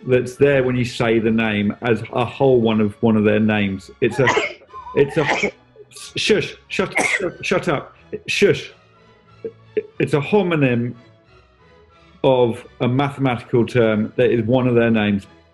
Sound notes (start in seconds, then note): 5.0 sneezes